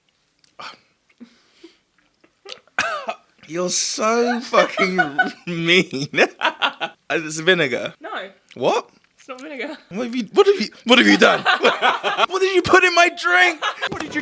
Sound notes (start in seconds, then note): 1.7 chuckles; 2.7 boyfriend coughs; 4.0 and boyfriend laugh; 9.9 laughs